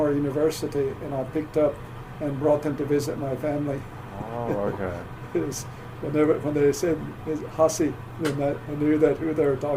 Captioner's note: laughs